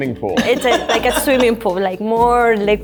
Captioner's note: laughs